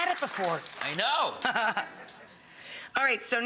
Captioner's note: Rachael laughs